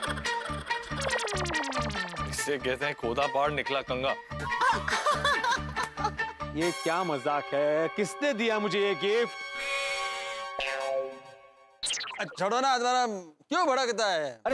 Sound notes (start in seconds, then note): 0.0 comical music playing; 4.5 laughing